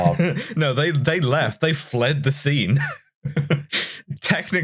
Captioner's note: chuckles